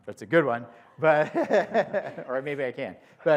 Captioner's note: laughter